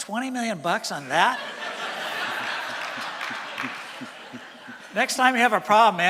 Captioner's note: laughter from audience